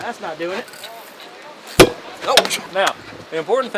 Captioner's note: pole banging